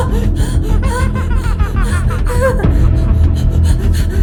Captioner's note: evil laughter